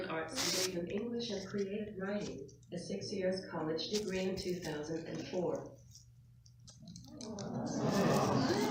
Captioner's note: audience applauding